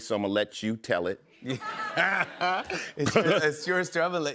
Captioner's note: laughs